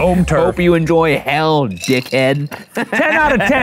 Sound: laughs

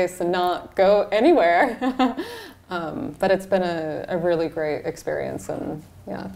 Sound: laughs

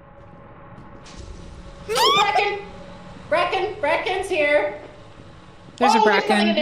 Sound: bracken sound, yelps

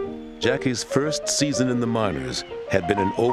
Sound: voiceover

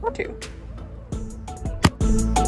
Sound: upbeat music; thunk

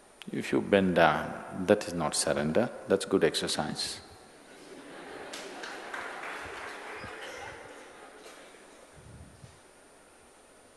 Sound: laughter/Applause

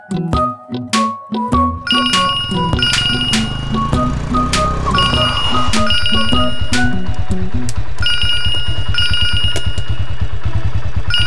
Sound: dad's mobile rings

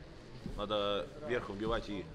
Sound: none

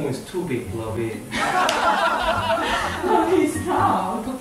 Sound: laugh

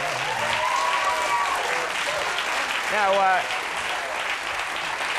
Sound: audience claps and cheers

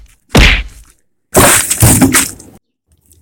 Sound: crashes

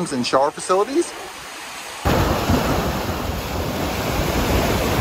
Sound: waves rushing

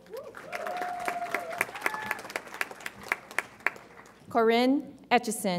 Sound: audience applauds and cheers

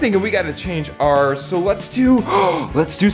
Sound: gasps

